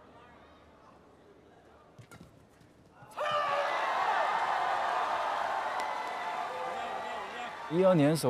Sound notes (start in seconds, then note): 3.1 loud cheering